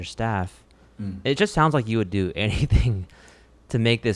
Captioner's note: laughs